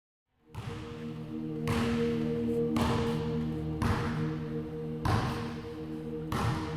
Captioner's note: soft ambient music; ball thumping